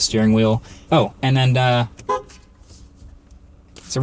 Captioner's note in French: klaxonnant